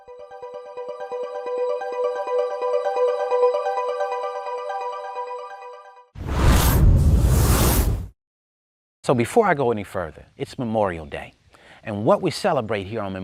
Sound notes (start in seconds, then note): 0.0 inspirational music; 6.2 air whooshing